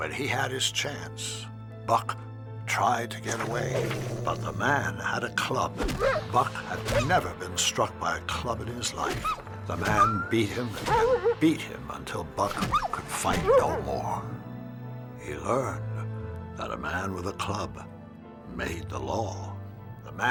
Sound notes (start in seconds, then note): 5.5 Buck whimpering